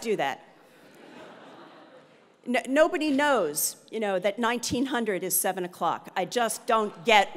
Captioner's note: laugh